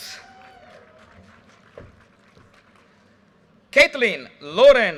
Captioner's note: audience cheers and applause